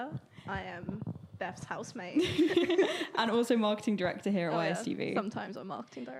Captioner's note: both laughing